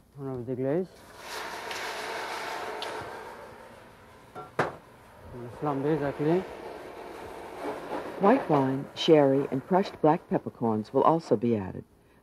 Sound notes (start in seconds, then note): 3.1 pan sizzling; 8.2 voiceover